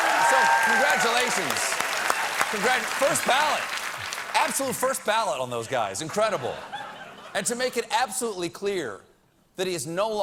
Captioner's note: applause